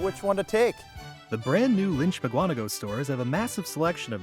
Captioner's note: voiceover